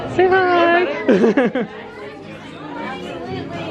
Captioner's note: laughs